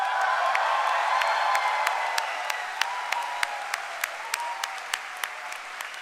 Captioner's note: cheering and applause